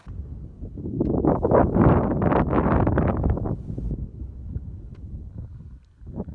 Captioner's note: wind blowing